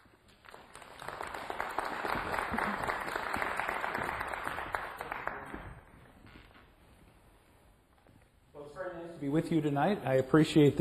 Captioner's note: applause